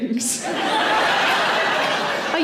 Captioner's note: audience laughing; chuckling